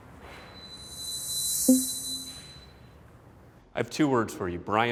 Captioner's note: eerie ringing